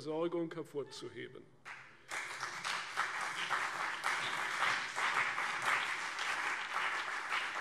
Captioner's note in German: Beifall CDU und BÜNDNIS 90/DIE GRÜNEN